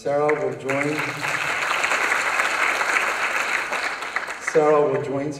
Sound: applause

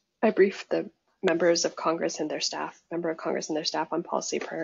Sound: none

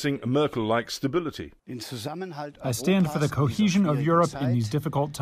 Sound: through translator

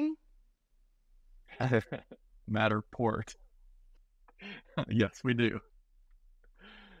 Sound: laughing

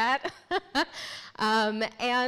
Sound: speaker laughing

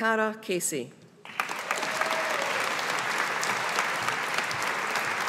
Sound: audience applauding

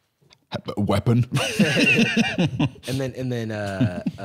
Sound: both laughing

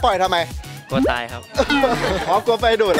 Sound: laughs

